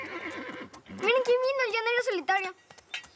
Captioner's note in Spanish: Relinchos